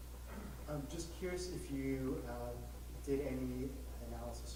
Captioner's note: voiceover